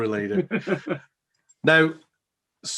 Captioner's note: laughs